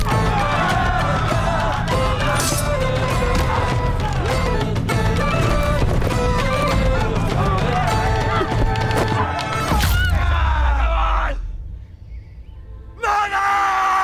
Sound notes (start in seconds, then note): 0.0 all cheering; 0.2 upbeat music; 9.7 all cheering; 11.8 birds chirping